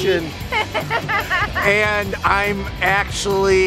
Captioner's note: laughter